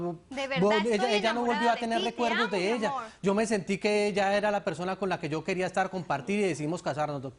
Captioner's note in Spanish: Hablan al unísono